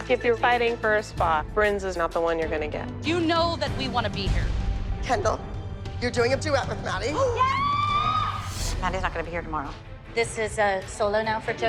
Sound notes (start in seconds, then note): 7.2 shrieking